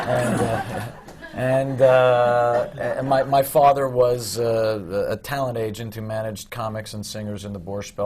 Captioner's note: laughter